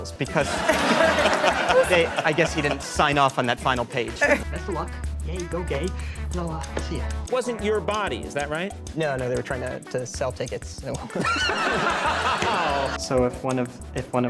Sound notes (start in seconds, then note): 11.1 pained laugh